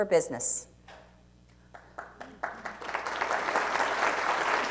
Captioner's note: applause